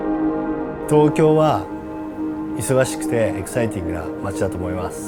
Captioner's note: upbeat music; speaks in foreign language